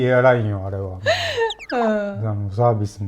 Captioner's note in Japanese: 笑い